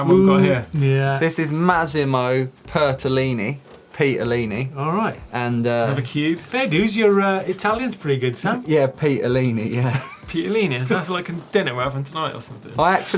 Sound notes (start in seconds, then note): 9.8 laughter